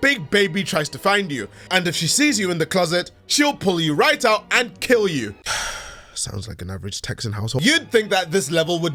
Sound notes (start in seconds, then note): 5.4 sigh